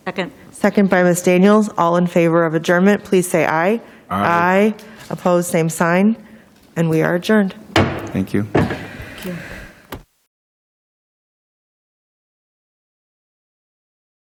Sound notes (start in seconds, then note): 8.5 gavel taps